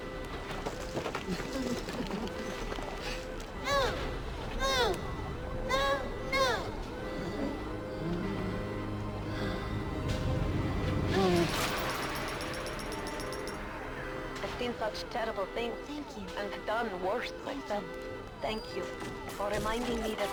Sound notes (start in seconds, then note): 1.8 grunting